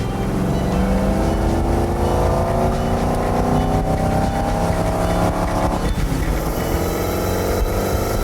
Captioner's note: engine revs